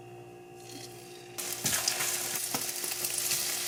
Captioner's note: sizzle sizzle